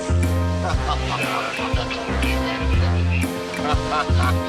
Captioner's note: laughing